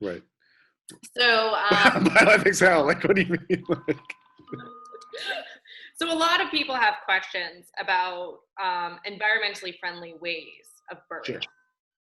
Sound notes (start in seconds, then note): 3.7 laughter